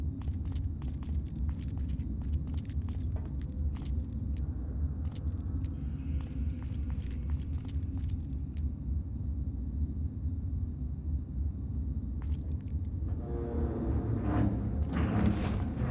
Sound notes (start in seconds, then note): 1.8 footsteps